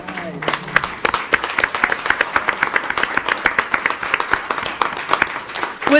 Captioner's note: audience applauding